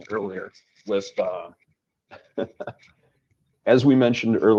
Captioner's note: laughs